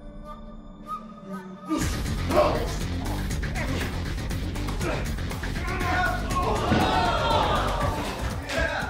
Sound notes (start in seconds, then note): 2.6 sumos grunting; 5.7 crowd reacts